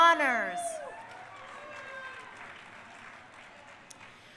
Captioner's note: crowd cheering